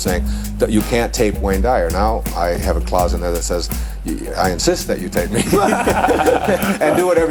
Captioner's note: laughter